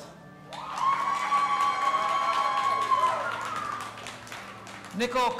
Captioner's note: audience applauding and cheering